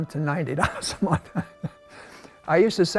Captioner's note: laughs